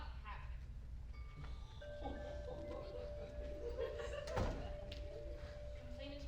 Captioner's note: wind chimes